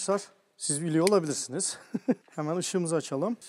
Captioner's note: laughing